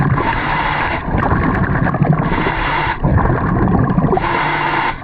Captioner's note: loud breathing